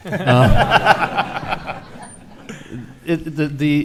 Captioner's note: laughing